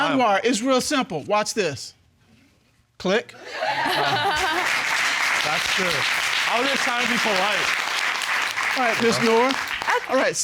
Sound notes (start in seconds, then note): 3.5 audience laugh; 3.6 chuckles